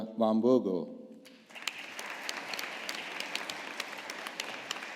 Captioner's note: audience applauding